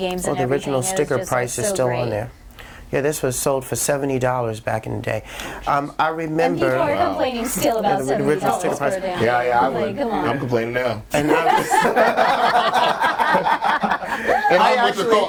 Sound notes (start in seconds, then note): 7.8 overlapping chatter; 13.8 all laughing